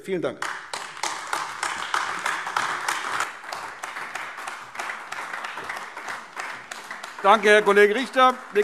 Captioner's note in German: Beifall AfD